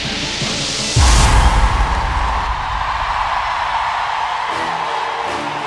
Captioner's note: applause